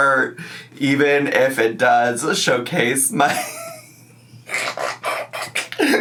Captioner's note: laughs